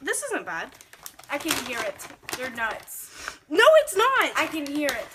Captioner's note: opens bag of peanuts